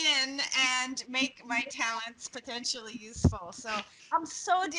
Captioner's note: laughing